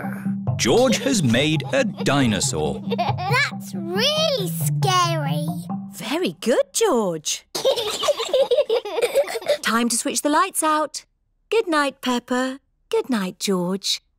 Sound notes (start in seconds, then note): 7.5 both giggle